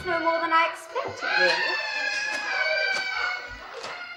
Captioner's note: wailing continues